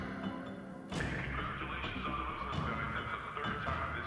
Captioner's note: loudspeaker